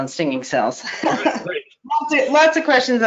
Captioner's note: laughing